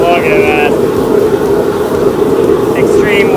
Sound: lobster frying

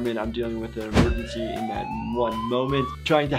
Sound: sirens blaring

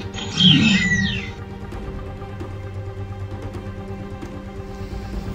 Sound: dinosaurs grunting and squealing

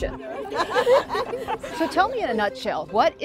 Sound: group laughing

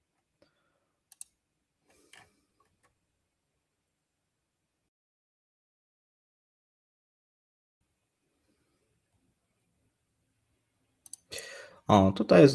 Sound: silence

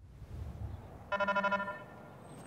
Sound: PA system beeping

